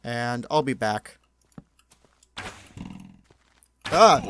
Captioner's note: arrow shot